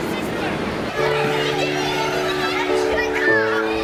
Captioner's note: children playing